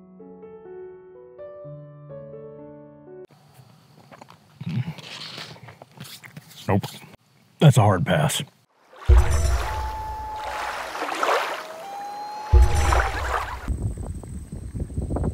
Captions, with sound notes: Nope. That's a hard pass. (water rushing, loon calling)